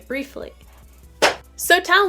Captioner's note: thigh slapping sound???